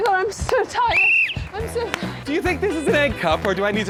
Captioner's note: whistle blows